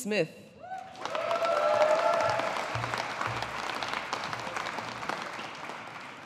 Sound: audience applauding

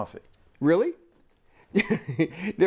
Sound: laughter

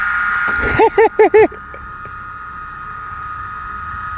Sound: cooling fan spinning; speaker laughing

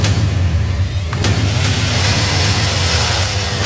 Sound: chainsaw starts

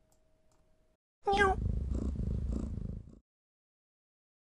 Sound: jess meows

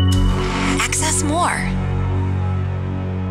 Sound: jingle; voiceover

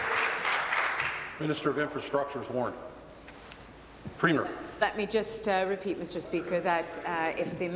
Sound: applause

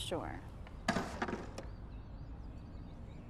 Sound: thunk

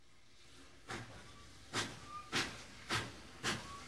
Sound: train chugging

